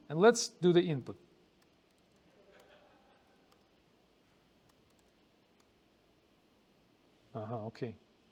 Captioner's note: pause